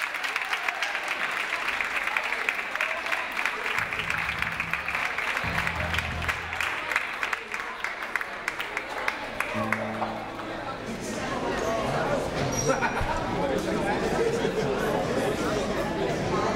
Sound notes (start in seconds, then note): 10.4 crowd chattering